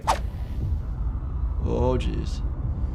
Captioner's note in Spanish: La escena retumba dramáticamente